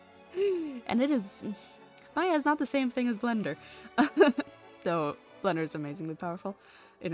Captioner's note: laughs